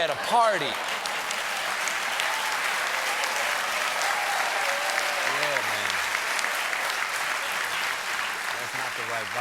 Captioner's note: applause